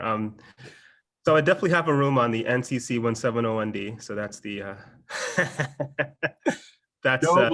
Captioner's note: laughs